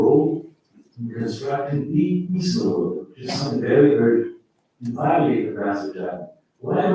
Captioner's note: faintly speaking